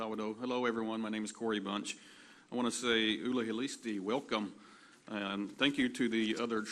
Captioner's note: cherokee language